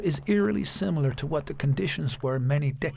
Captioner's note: flags flapping